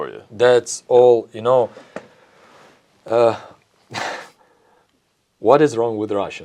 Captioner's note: laughs